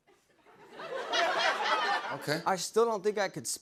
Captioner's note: laughter